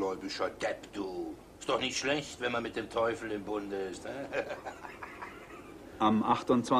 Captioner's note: giggles